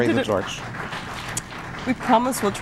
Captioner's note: applause